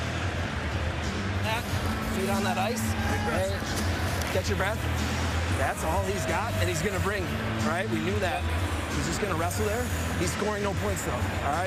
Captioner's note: cheers and applause